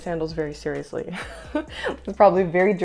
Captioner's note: laughter